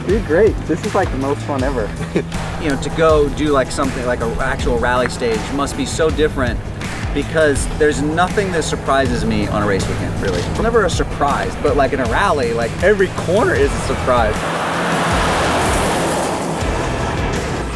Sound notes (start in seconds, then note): 14.5 car drifts